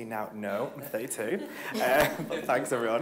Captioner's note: all laughing